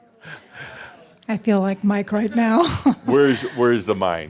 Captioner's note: she chuckles